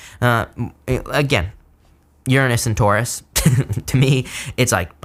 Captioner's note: laughs